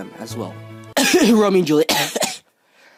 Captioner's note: cough